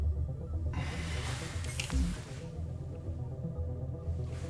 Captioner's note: error chime